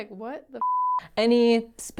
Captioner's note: beep